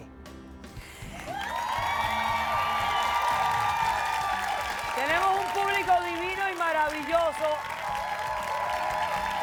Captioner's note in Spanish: Aplausos